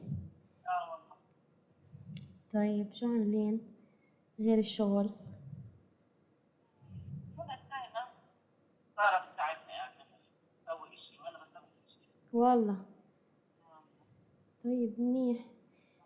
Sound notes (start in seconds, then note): 0.0 non-english speech